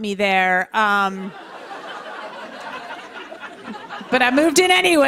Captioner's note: laughter